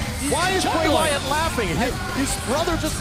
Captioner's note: crowd cheering